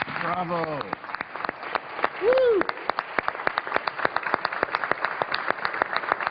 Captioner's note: applause